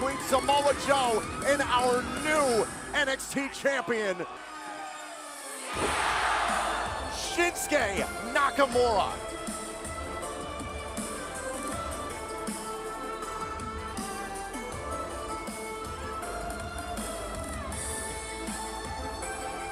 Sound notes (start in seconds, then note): 3.4 crowd cheering